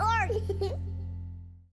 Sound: child giggling

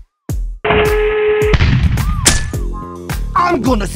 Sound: kaboom

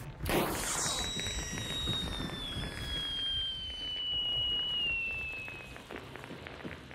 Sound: pop; firework screaming

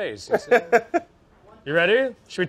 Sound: laughs

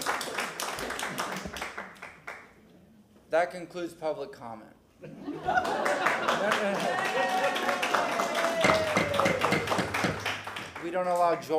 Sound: applause; sounding gavel; laughter; applause

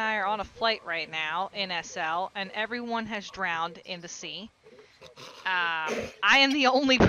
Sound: chuckling

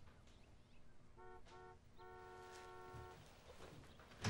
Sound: car horn honking

